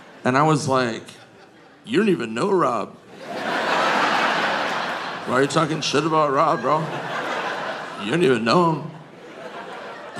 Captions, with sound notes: And I was like, "You don't even know Rob. (audience laughing) Why are you talking shit about Rob, bro? You don't even know him."